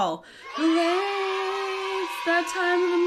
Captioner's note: children cheering